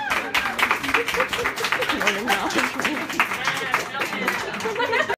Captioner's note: applause